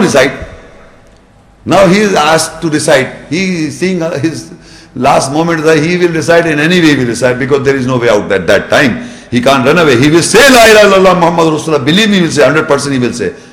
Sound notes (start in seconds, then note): 10.6 Arabic